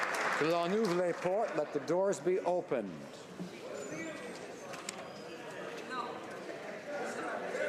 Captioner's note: applause